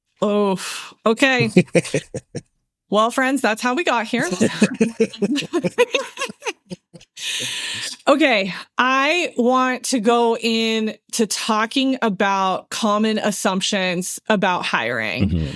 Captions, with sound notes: Oh, okay. Well friends, that's how we got here. (Both Laughing) I want to go in to talking about common assumptions about hiring.